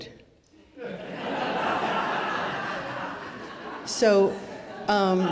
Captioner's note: audience laughs